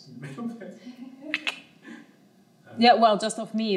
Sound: people chattering

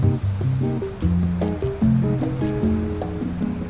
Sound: bright music; waves crashing

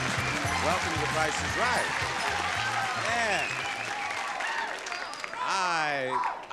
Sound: audience cheering

